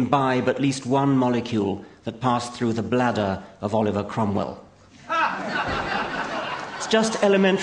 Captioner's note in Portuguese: Risos